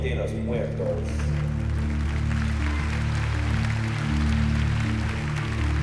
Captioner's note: applause